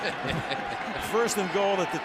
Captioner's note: laughter